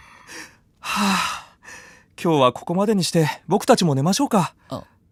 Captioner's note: sigh